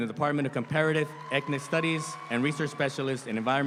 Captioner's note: audience applauds